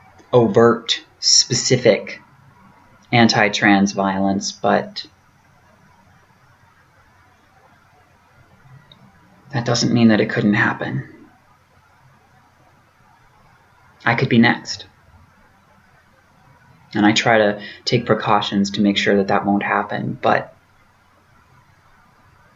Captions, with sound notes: overt specific anti-trans violence but... [pause] that doesn't mean that it couldn't happen. I could be next. And I try to take precautions to make sure that that won't happen, but....